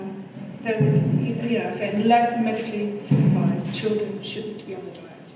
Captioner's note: hum drowns out speaker